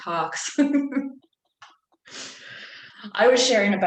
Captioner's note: laughs